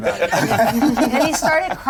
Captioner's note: players laughing